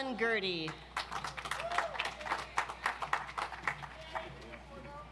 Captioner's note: audience applauds